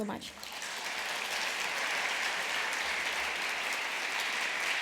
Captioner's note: applause